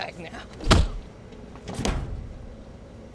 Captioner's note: blow lands, slams